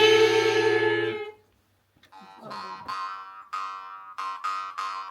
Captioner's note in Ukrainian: сміх